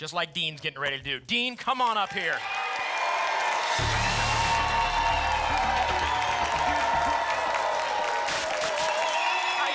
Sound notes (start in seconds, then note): 3.7 static; 6.3 applause and cheering; 8.2 static